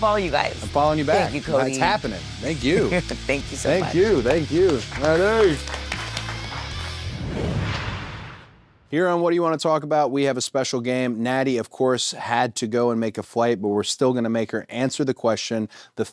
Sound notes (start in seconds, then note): 5.9 everyone applauds; 5.9 upbeat music; 6.2 logo whooshes